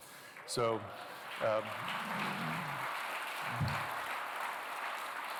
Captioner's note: applause